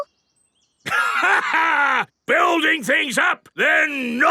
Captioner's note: laughs